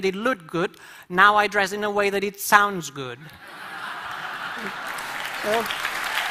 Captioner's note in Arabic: الجمهور يصفق باعجاب